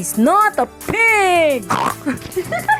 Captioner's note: laughs